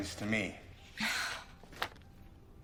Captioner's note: scoffs